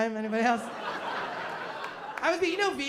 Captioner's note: laughter